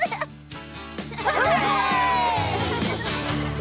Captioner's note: giggles; all Cheering